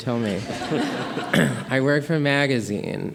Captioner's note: audience laughing